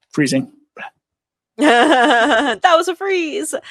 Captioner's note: laughs